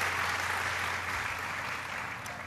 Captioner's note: applause